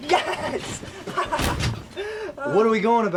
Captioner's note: laughs